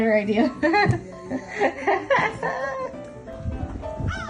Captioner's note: laughs; crows cawing